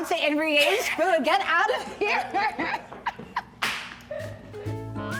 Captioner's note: laughing